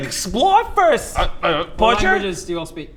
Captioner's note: grumble